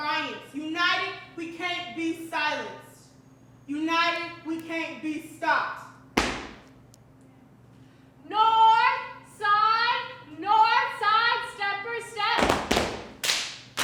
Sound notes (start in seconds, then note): 6.2 foot thuds; 12.4 feet thudding; 12.4 hands smacking